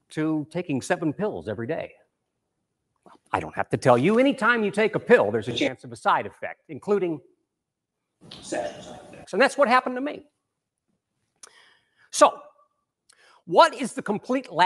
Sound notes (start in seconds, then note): 8.7 murmurs